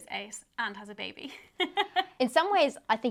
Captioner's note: laughs